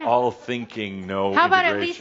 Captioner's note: they chuckle